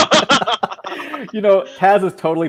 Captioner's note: laughing